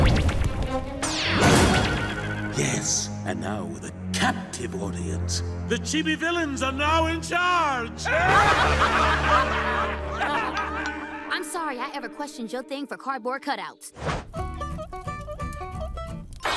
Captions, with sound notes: Yes. And now with a captive audience, the Chibi villains are now in charge! (all laughing) I'm sorry I ever questioned your thing for cardboard cutouts.